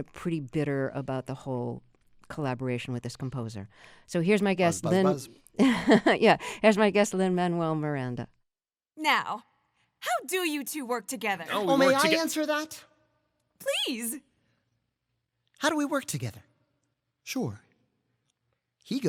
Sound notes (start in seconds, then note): 5.6 laughter